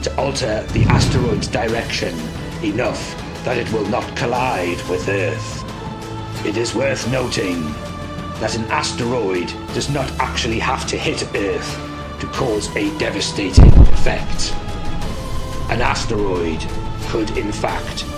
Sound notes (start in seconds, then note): 13.5 thunder rumbling